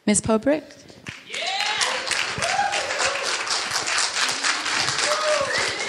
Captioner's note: audience cheering and applauding